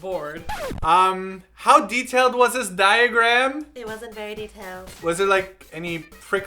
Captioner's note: shameful voice